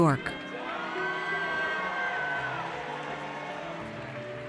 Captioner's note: audience cheers